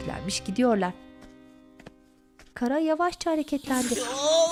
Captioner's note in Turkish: Ayak sesleri